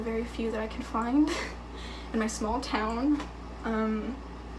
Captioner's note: chuckling